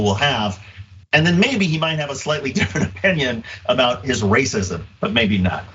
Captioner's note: laugh